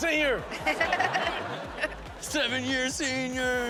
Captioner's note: Chanel and audience laughing